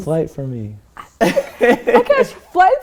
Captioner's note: laughter